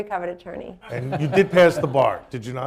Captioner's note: laughter